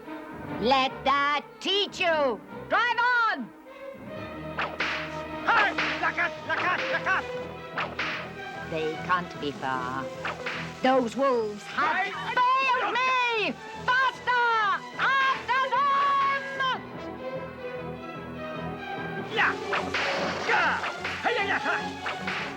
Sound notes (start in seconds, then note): 4.5 whip cracks; 6.3 dwarf barks commands in strange language; 19.0 dwarf barking commands